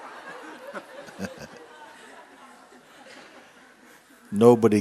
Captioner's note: laughter